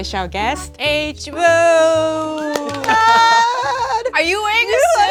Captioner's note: claps hands